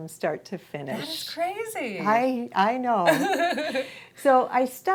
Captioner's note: laughs